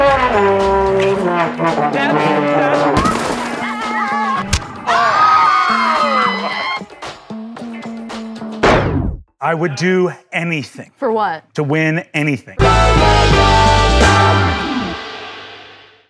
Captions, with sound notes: (trombone sounds) (smashing sounds) (face slap) (screaming) - I would do anything. - For what? - To win anything.